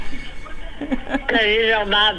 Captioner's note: woman laughing